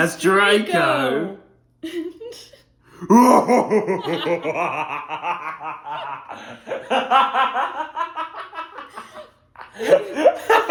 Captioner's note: laughter